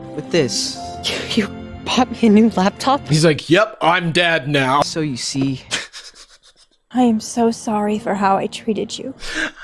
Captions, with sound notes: with this. - You, you bought me a new laptop? - He's like, "Yep, I'm dad now." - So you see? (laughing) - I am so sorry for how I treated you.